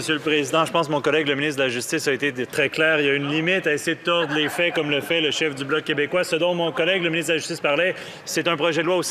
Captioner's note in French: voix de l'interprète